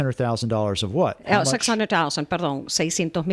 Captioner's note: Hablando ingl\s